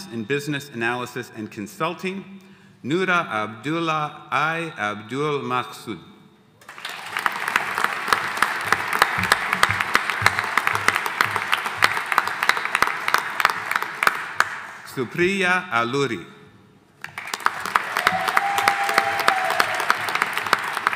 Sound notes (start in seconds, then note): 6.6 audience applauding; 17.0 audience applauding